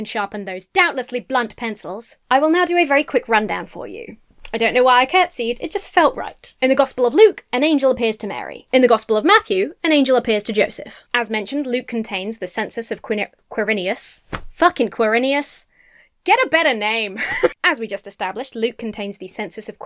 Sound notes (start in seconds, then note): 12.9 stammers; 17.1 laughs